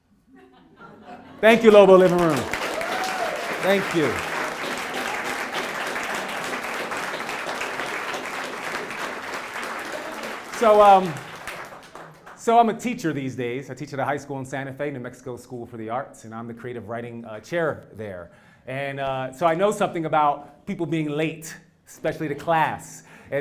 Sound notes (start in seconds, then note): 0.4 laugh; 1.4 applause